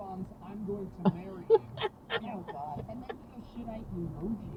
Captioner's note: laughing